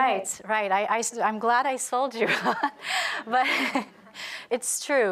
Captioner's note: chuckling